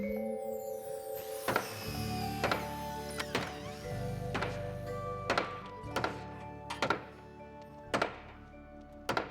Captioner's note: hammering